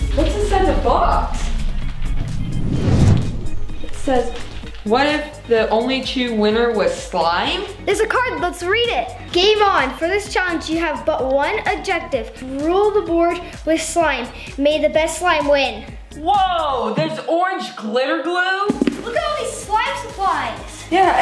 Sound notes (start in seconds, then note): 2.9 whoosh